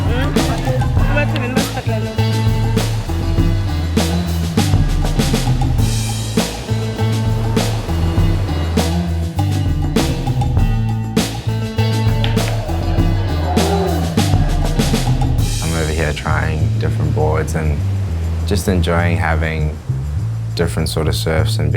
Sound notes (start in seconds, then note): 3.0 waves rolling